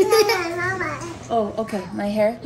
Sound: babbling

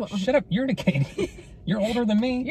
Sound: laughing

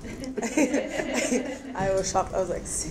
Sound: audience laughs

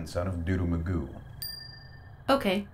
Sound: phone chimes

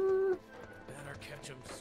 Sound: humming

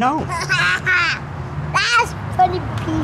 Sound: laughs

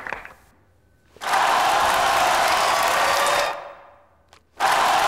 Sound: cheering

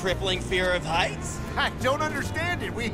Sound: laughing

